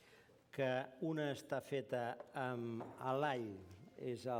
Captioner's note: non-english speech